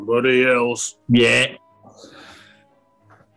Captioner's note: deep voice